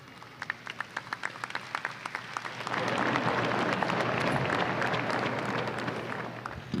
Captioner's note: applause